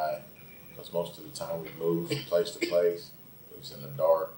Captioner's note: coughs